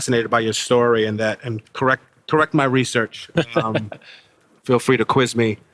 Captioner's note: James laughing